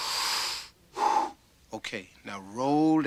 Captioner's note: loud breath